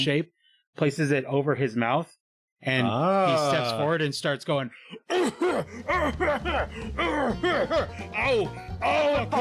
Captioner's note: loud coughing